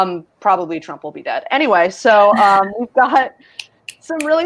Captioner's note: snaps